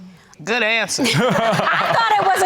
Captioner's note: laughing